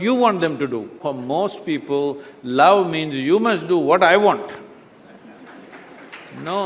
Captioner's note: few laugh/Applause